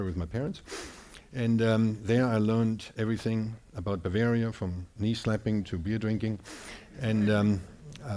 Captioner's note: audience laughing